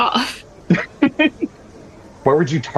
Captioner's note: laugh